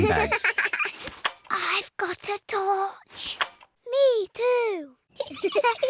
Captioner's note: whispering; both giggle